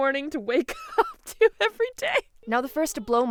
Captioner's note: laughing